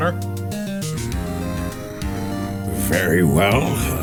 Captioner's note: growls